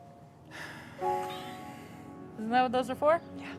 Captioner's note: sighs